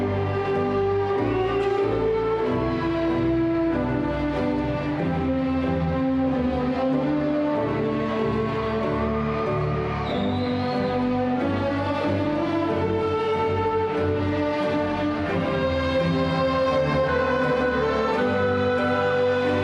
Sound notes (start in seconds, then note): 7.8 crowd cheering; 9.1 cheerful classical music